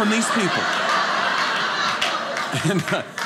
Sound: audience laughing

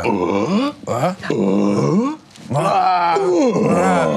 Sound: excited grunting

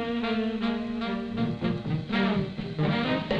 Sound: none

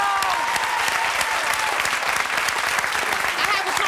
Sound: audience applause

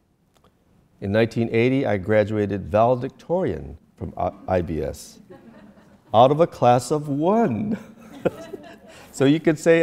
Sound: audience laughter

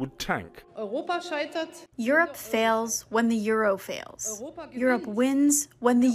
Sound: through translator

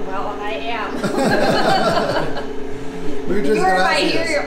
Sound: laughing

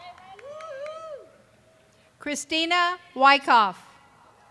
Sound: cheering

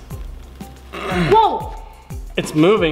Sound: grunts

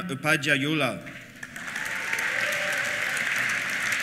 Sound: applause; cheers

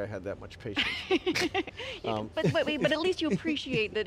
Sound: laughing

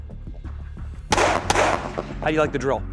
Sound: gun fires

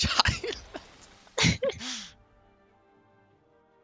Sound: haha

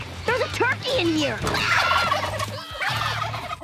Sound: screaming, gobbling

